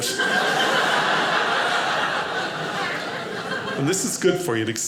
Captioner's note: audience laughing